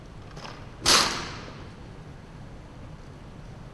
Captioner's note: gunfire